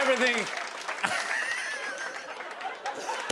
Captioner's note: laughter